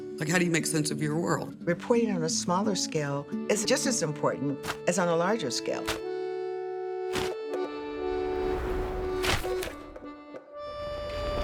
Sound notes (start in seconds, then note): 6.1 gentle atmospheric music; 7.1 newspaper rustling; 9.4 gentle atmospheric music